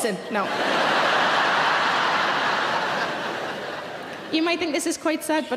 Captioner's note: audience laughing